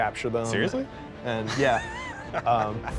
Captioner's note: laughs